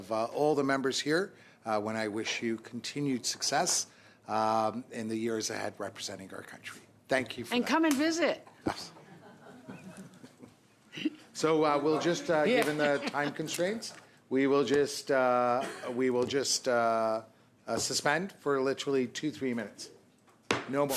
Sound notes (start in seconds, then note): 14.3 laughter